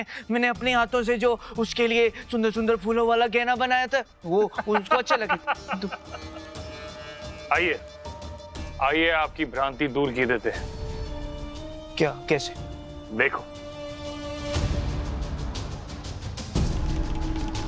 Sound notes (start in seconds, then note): 4.4 laughs